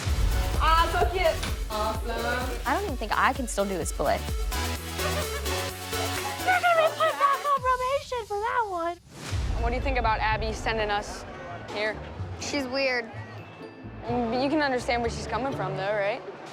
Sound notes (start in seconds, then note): 6.0 laughter